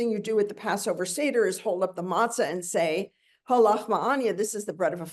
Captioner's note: speaks in Hebrew